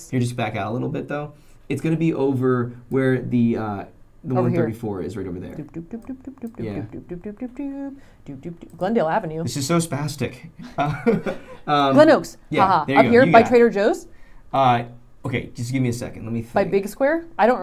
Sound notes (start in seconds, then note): 6.0 humming melody; 10.6 laughing